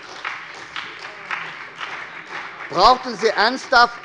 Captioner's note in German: Beifall bei der SPD